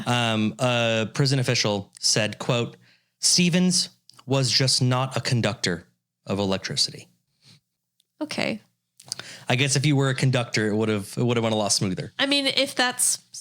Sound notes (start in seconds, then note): none